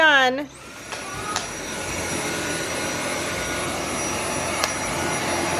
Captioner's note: vacuum cleaner noise